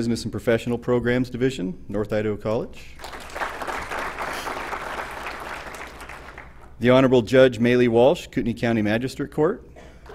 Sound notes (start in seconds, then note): 3.0 applause